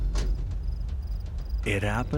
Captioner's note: door slams